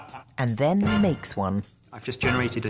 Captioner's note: voiceover